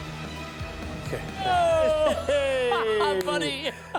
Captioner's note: laughs